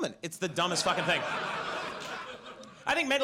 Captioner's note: audience laughs